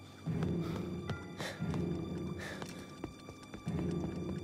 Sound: panting

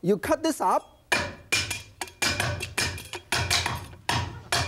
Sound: clanging

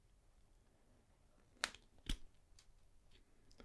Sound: snap

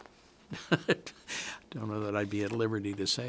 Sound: chuckles

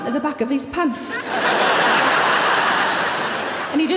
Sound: audience laughing

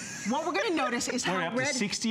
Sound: laughter

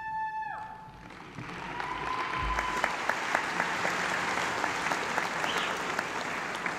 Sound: applause

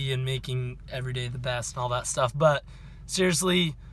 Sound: none

